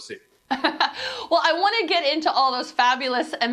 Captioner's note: laughing